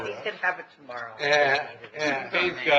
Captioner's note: laughing